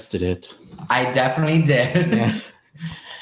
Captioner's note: laughs